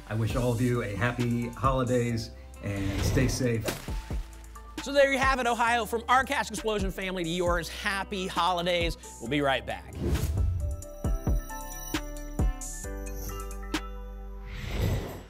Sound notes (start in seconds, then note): 3.6 splat; 10.0 whoosh